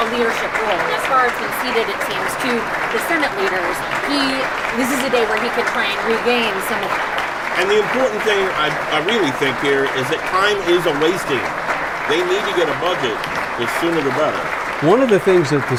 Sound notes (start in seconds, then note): 5.4 loud background talking